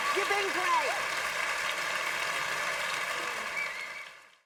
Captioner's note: applause